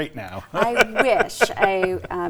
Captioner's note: laughing